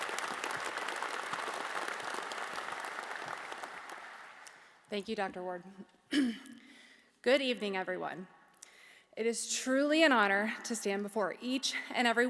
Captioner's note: applause